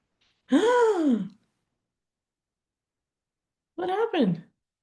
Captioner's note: gasping